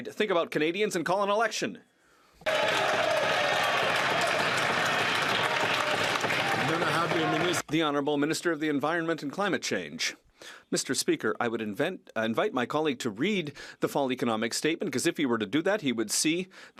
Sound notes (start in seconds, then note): 6.1 some Applause